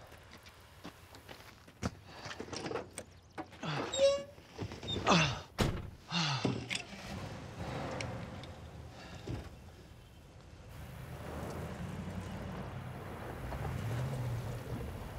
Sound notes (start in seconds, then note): 3.1 grunts; 6.7 engine cranks; 10.7 engine revs